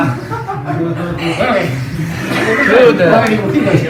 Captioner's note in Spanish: murmullos y risas